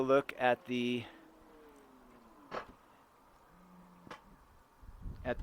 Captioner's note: rear hatch closing